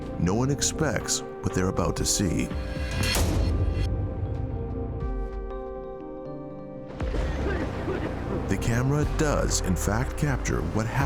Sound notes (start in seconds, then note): 7.2 coughing